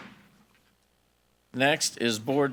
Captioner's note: gavel bangs